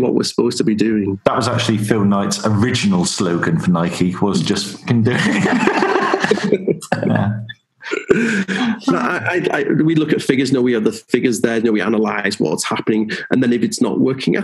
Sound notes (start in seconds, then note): 6.0 laughing